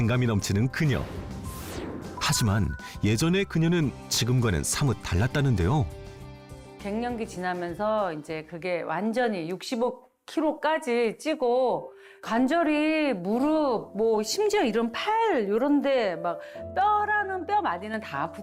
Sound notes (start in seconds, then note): 6.0 voiceover